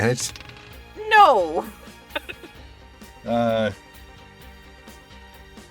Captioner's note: chuckles